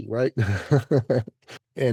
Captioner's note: laughs